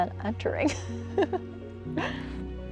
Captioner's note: laughs